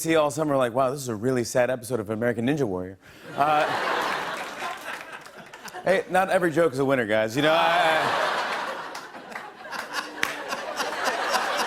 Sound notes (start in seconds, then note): 3.3 laughter; 7.4 laughter; 9.8 laughter continues